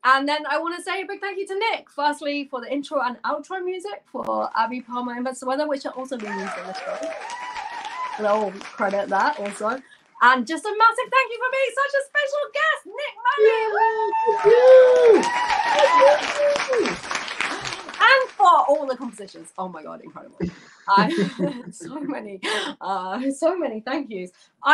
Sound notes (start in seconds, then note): 14.9 applause